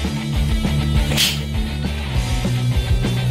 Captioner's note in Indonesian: Pssh